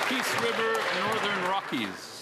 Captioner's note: applause